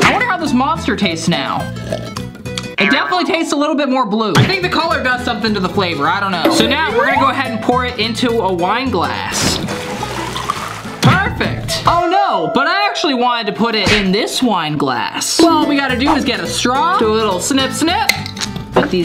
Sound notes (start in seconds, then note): 1.8 slurps